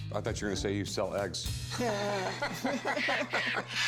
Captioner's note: laughter